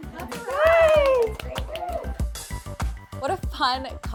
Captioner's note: both cheer